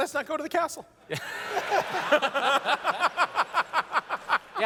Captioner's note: laughter